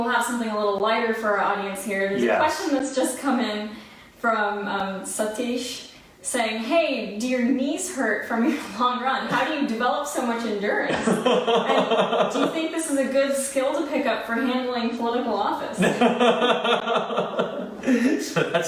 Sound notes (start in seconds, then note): 10.9 laughs; 15.7 laughing